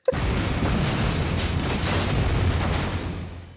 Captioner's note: explosions pound